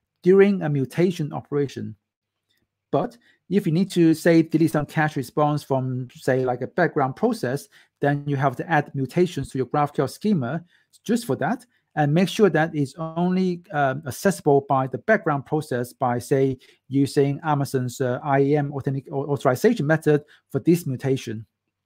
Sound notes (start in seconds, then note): none